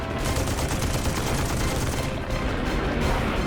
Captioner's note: gunfire